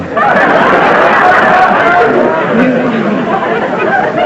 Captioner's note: laughter